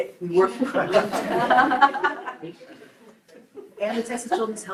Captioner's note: group laughs